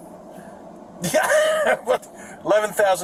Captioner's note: mocking laugh